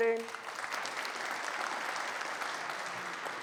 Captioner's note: audience applauding